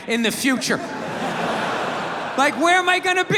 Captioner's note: audience laughs